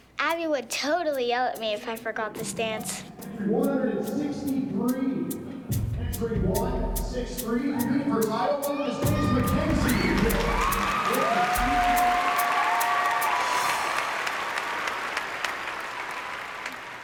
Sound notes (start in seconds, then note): 9.0 cheering and applause